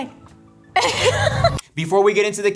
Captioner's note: laughing